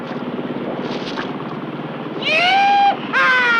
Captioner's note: laughs